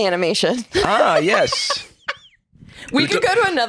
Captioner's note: cackles